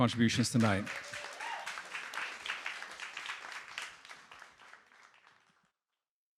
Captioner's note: audience applauding; audience cheering